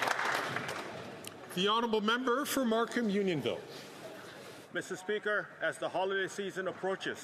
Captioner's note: some Applause